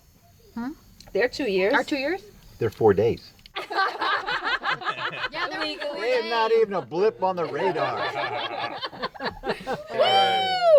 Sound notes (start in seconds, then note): 3.5 all laughing